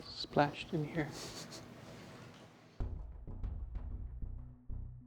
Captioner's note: laughs